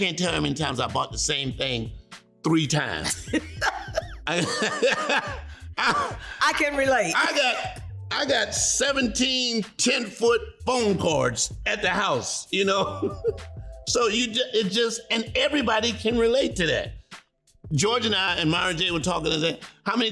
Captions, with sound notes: I can't tell you how many times I've bough three times. [laughing] - I can relate. - I got-- I got 17 10-foot phone cords, at the house, you know? so you-- it just-- And everybody can relate to that. George and I and Myron were talking,